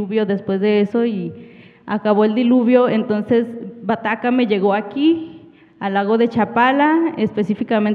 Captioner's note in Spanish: habla en wixárika